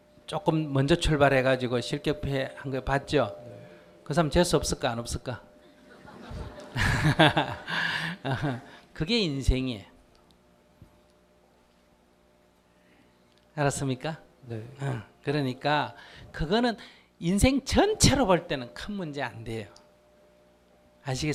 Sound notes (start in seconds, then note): 5.6 audience Laughter